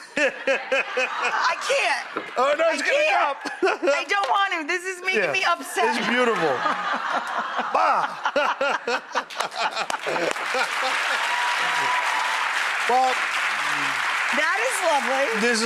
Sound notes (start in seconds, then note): 0.0 Buddy and audience laugh; 5.8 audience laughing; 5.8 audience laughs; 9.3 audience applauds and cheers